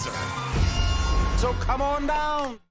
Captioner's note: none